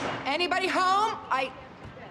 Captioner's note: pounding on table